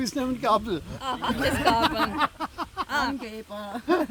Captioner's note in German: Gelächter